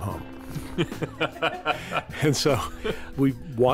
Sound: laughs

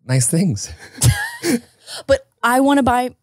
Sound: both chuckles

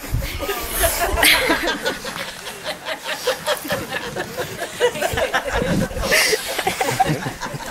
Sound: laughing

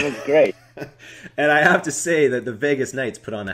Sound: chuckles

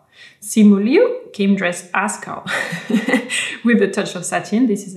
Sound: laughs

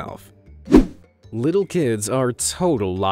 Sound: image whooshing

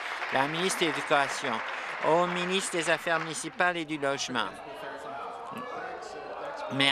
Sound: applause

